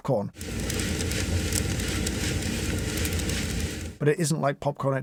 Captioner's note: machine whirring